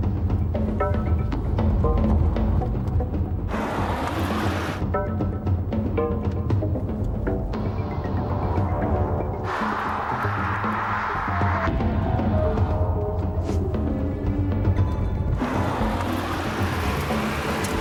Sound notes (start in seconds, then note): 3.5 engine rumbling